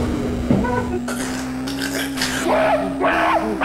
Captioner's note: scrams and cry; choking; scream like chimpanzee